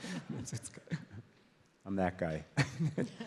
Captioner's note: audience laughs